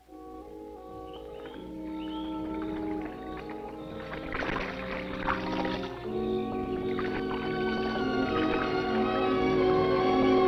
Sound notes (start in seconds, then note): 0.1 soft music; 1.4 insects chirping; 3.2 water splashing